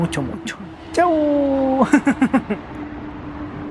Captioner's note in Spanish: risas